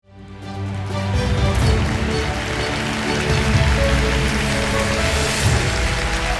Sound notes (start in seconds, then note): 0.1 lively orchestral music; 0.4 audience applauding